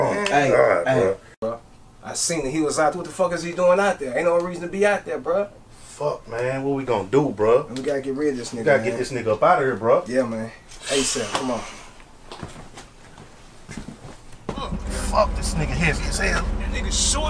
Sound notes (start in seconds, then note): 10.9 man sighing